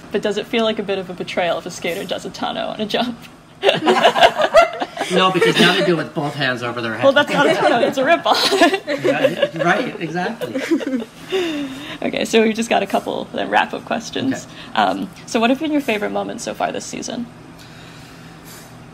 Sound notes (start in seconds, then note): 3.6 laughter; 7.3 laughter